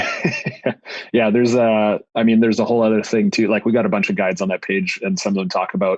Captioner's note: laughs